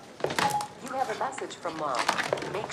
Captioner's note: computerized Voice